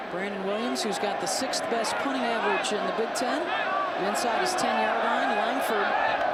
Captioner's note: applause